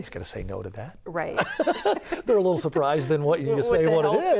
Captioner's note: laughing